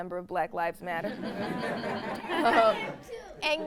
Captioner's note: audience laughs